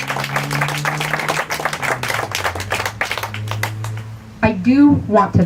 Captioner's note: applause